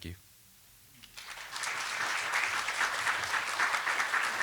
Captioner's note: applause